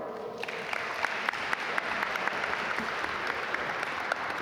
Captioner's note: audience applaud